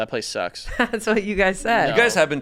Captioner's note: chuckles